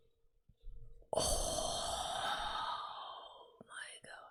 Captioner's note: breathes out